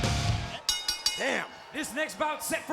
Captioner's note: bell ringing